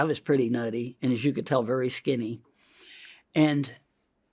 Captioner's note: inhales